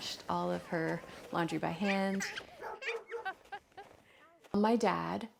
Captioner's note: laughter